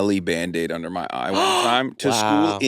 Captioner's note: gasps